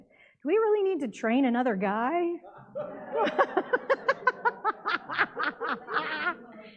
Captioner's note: laughs